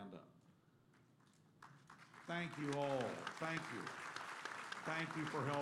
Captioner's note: applause